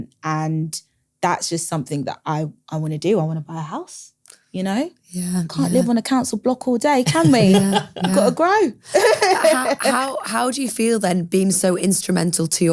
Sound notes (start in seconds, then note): 8.9 laughs